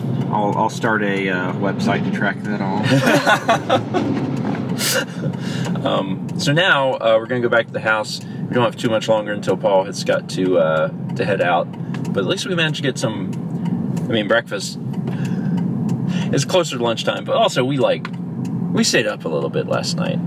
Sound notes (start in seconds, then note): 2.8 laugh